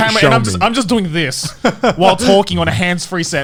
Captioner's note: laughing